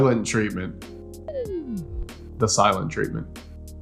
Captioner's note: effect whistling